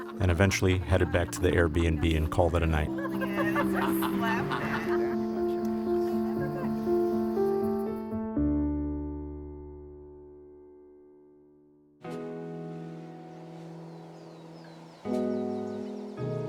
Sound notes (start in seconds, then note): 3.4 group laughter, inaudible conversation